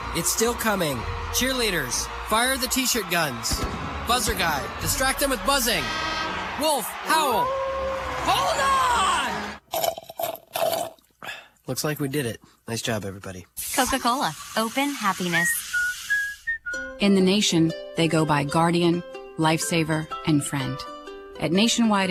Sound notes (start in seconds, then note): 6.7 horn sounds; 9.1 wolf howling; 9.6 sipping of drink